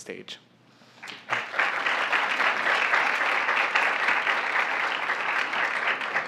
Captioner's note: applause